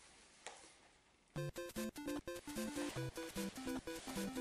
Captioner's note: phone ringing